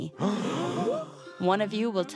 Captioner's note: gasps